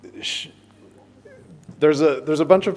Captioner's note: man speaks softly